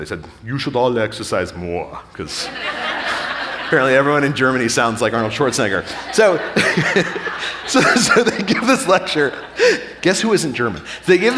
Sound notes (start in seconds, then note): 2.2 audience laughing; 5.2 laughing